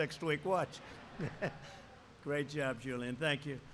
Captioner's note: laughter